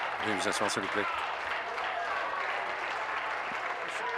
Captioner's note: applause